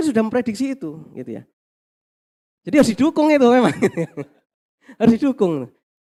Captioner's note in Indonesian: tertawa